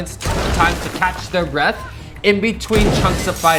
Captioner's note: gun shot